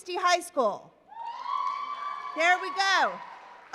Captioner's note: applause